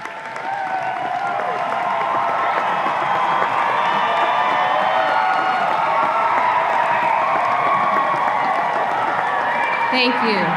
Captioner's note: audience applause and cheers